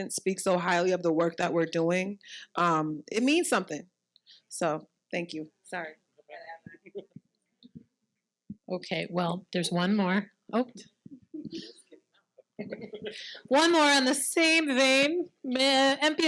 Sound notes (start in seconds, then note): 6.3 participant murmuring